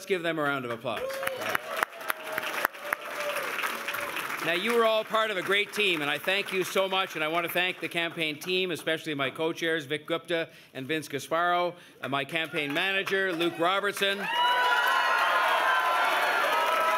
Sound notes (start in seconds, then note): 6.2 applause